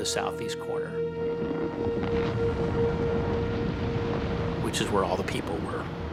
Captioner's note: waves crashing